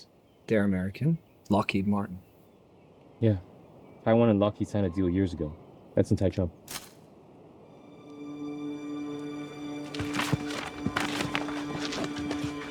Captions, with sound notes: They're American, Lockheed Martin. Yeah. Taiwan and lockheed signed a deal years ago. That's in Taichung. [Twig snap] [Tense music]